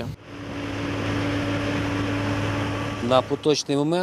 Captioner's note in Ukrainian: Шум техніки